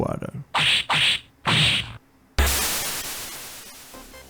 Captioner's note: hit, hit.. splash